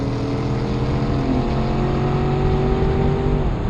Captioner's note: car revving